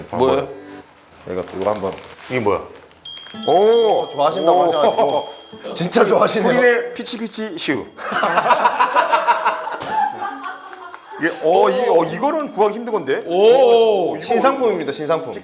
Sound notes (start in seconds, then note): 7.9 hahaha; 9.4 hahahahahaha